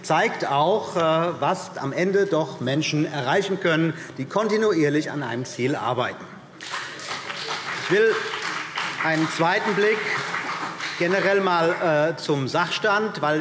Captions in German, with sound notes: zeigt auch, was Menschen am Ende erreichen können, die kontinuierlich an einem Ziel arbeiten. [Beifall BÜNDNIS 90/DIE GRÜNEN und vereinzelt CDU] Ich will einen zweiten Blick auf den generellen Sachstand richten.